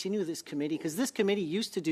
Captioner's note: speaking French